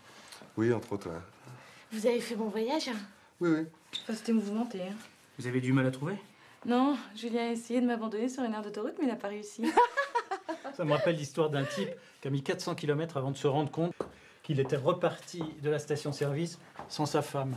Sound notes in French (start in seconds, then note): 11.4 Maya rit